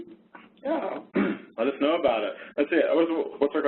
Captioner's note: coughs